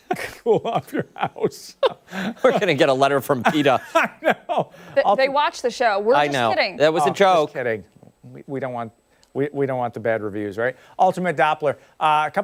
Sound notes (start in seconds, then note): 5.4 laughter